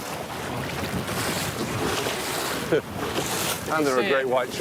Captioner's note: water splashing